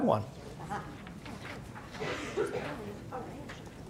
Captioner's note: murmurs